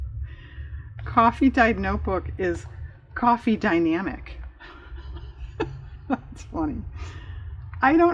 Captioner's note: laughs